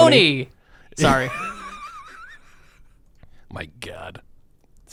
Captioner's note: laughing